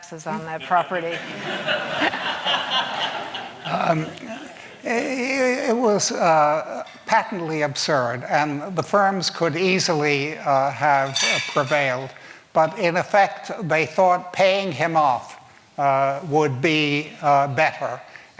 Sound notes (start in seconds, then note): 0.6 laughter